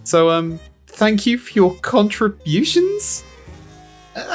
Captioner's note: nervously and unsure